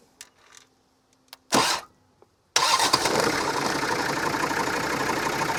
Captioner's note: engine rumbles